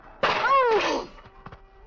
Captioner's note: screaming